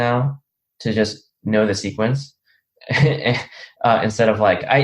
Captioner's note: chuckles